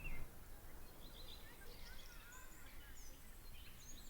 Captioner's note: birds chirping